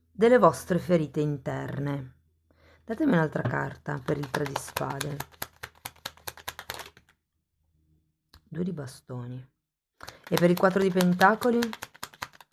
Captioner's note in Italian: Applauso